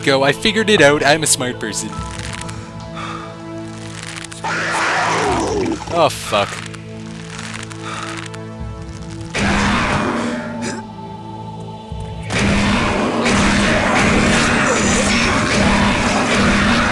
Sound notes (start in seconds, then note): 4.4 monster roars; 6.7 gunfire and monster roars